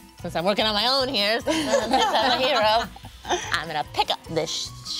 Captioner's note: group laughing